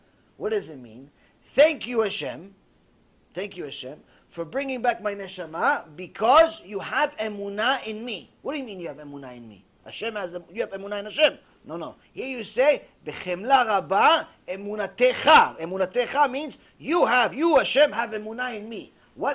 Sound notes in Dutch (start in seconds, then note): 12.1 hebreeuws